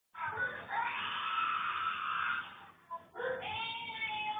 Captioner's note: child screaming